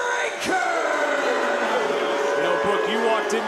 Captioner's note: crowd cheers